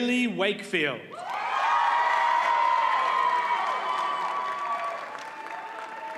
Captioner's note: audience cheers and applauds